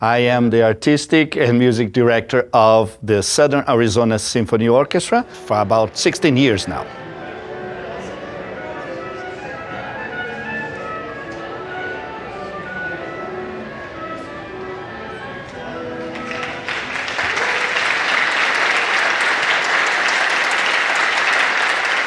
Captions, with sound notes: I am the Artistic and Music Director of the Southern Arizona Symphony Orchestra for about 16 years now. [ CONCERT HALL CHATTER AND MUSIC WARM UP ] [ APPLAUSE ]